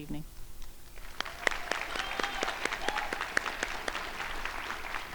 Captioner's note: crowd applauding